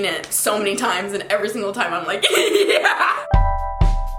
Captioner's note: giggles; mellow music